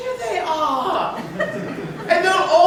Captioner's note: laughter